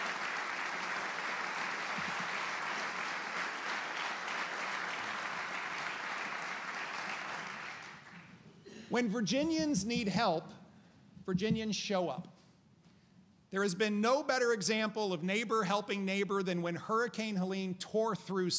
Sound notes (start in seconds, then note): 0.0 applause